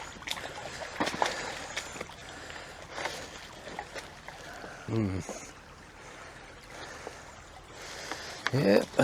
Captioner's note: river sounds